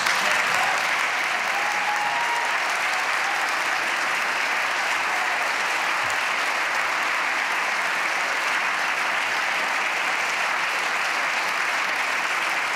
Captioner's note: applause